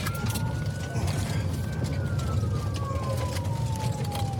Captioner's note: siren wailing